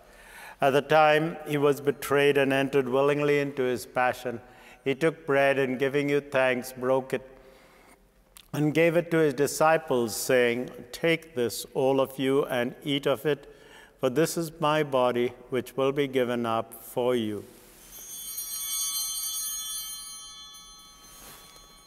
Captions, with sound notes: At the time he was betrayed and entered willingly into his passion, he took bread and giving you thanks, broke it, and gave it to his disciples, saying, "Take this, all of you, and eat of it. "For this is my body, which will be given up for you." (Bell ringing)